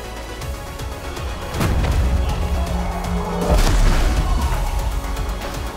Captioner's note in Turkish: Dövüş sesleri; Müzik - Gerilim